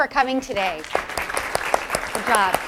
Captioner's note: applause